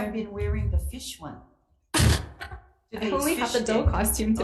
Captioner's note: chuckles